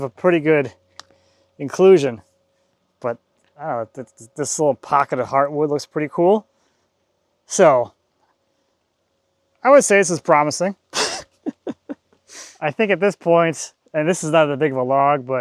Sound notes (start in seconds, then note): 10.9 laughs